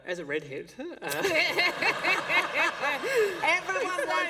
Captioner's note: laughter